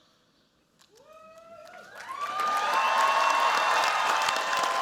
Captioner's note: cheers, applause